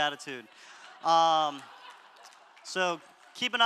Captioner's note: audience laughter